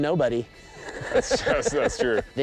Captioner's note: laughing